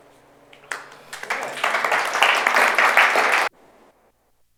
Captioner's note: audience applauds